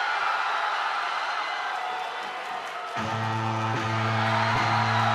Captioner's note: crowd cheering